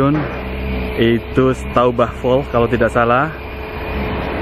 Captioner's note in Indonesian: in German language